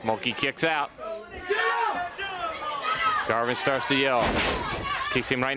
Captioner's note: crowd chatter